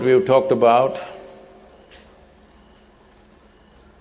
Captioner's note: none